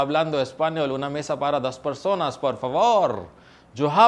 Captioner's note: Spanish